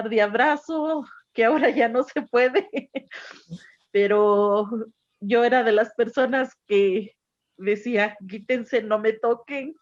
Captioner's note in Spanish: risas